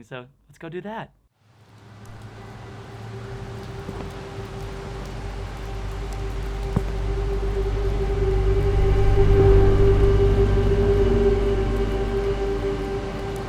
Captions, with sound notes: so, let's go do that. (cars passing) (footsteps) (cinematic orchestral music)